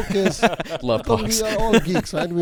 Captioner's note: laughing